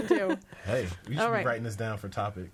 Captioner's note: all laughing